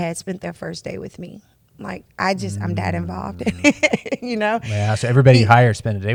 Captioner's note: laughs